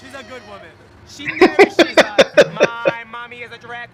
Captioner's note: laughing